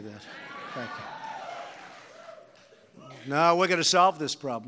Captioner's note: applause